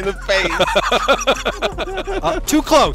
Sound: laughter

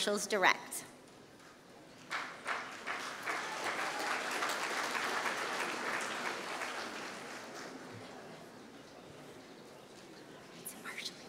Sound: applause

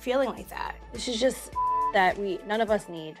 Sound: beep

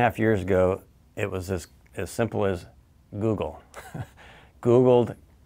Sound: chuckles

